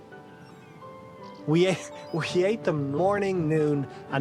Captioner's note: laughs